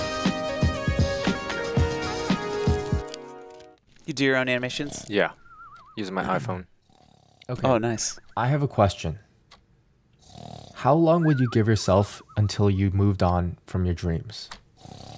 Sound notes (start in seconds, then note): 6.8 snoring